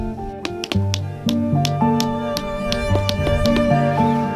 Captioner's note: pounding stakes into ground